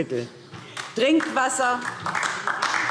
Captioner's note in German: Beifall DIE LINKE